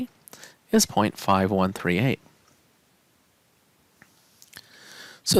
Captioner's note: no Speech Detected